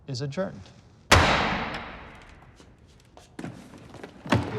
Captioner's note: gavel bangs